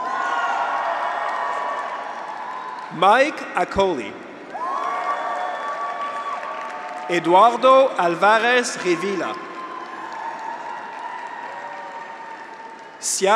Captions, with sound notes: (graduates cheer) (audience applauds) Mike Akolly. (graduates cheer) (audience applauds) Eduardo Alvarez Revilla. (graduates cheer) (audience applauds)